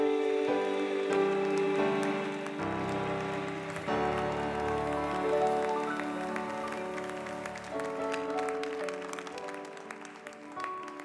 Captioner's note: applause